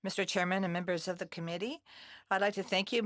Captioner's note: speaking in French